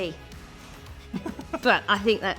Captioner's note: laughing